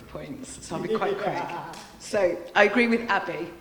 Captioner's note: laughing